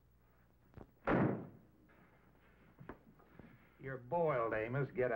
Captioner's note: door thudding